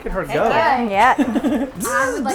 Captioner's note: laughter